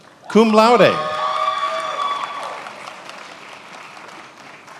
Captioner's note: attendees applauding